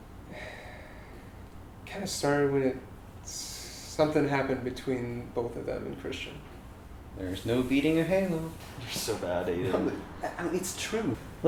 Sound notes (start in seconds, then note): 0.3 sigh